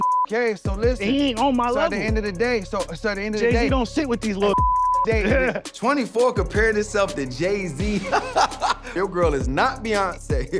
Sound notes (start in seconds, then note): 0.0 beep; 4.5 beep; 8.3 laughs